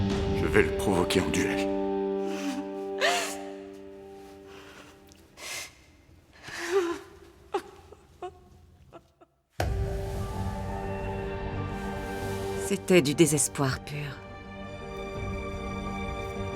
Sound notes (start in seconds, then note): 4.6 Cleopatra sobbing; 9.6 gentle pensive music